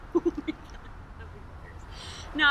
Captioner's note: lady laughing